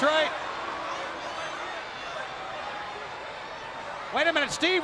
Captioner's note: crowd yelling